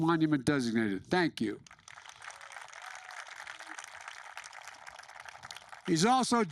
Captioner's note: applause